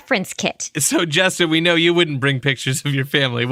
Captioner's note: laughing